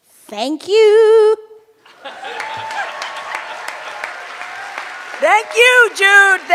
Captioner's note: cheers and applause